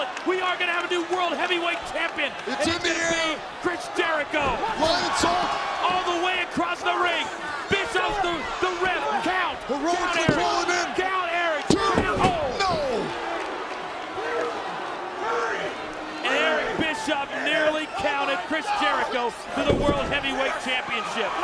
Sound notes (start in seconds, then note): 12.8 applause